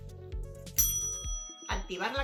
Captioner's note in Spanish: sonido de campanilla: riiiing